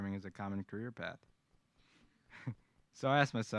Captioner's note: laughter